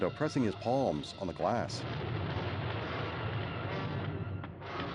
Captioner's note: thunder crashing